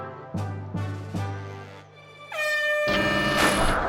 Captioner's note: air horn sounds